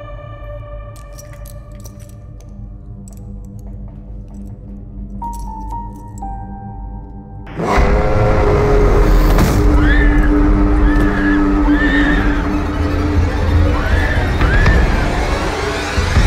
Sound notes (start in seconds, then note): 9.4 screaming